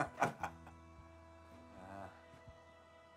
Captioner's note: laughing